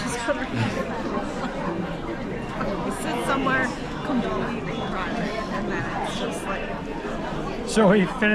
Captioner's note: laughs